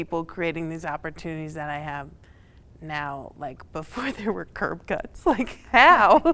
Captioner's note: laughs